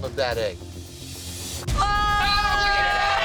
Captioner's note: screaming